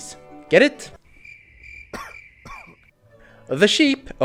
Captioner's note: crickets